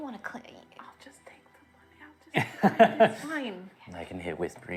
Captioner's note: whispering